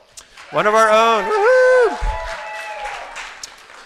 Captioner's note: applause and Cheers